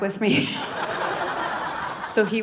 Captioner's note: audience laughing